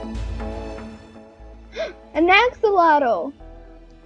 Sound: gasps

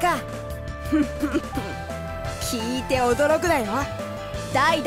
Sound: confident chuckle

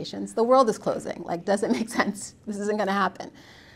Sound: laughs

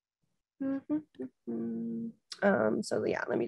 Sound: hums melodically

